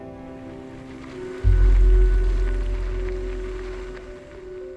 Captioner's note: tires on gravel